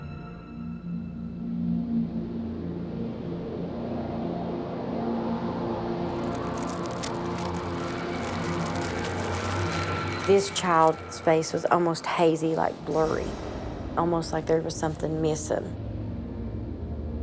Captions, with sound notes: (eerie music) (rustling) - This child's face was almost hazy, like blurry, almost like there was somethin' missin'.